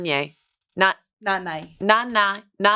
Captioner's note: speaks foreign language